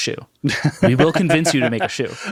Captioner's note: laughing